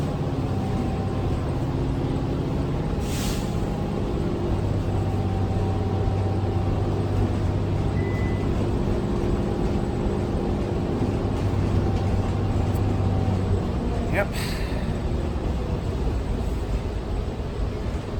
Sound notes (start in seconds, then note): 7.5 ding